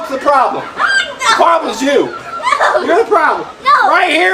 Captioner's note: assistant shrieks